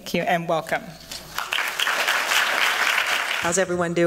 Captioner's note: applause